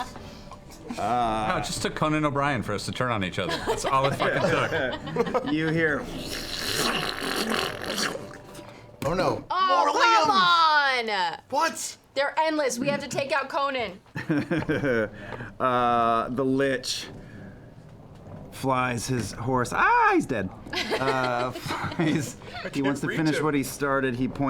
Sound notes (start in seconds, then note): 6.4 ripping; 15.0 laughs